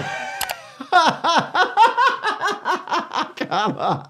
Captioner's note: laughs